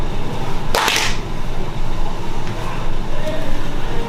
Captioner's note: clapping